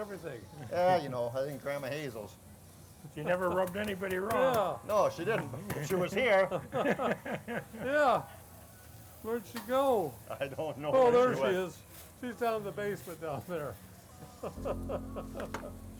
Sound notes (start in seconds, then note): 6.6 laugh; 14.5 laughs